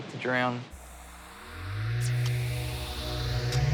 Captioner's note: whirring, whooshing